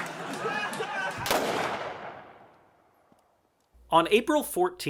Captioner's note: laughing, applause; gunshot